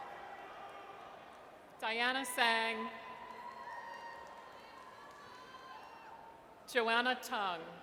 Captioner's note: audience cheers